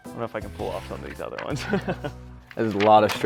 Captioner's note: laughs